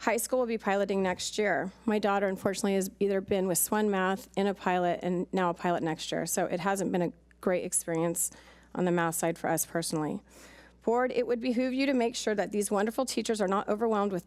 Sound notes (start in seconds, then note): none